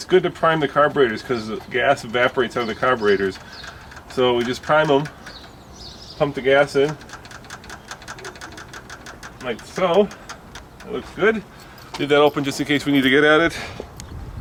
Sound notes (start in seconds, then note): 7.4 rattling